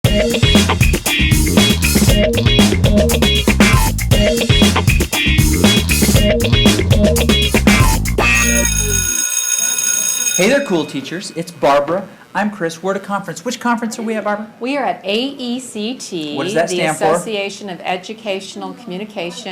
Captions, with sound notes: (upbeat music) (bell rings) - Hey there cool teachers, it's Barbara, I'm Chris we're at a conference. Which conference are we at Barb? - We are at AECT. - What does that stand for? - The Association of Educational Communication